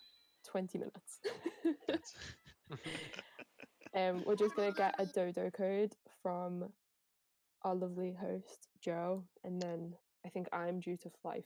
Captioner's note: laughter